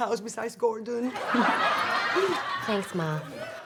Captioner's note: audience laughs